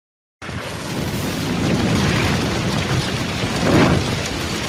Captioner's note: heavy wind blowing